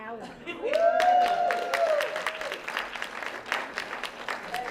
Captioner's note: applause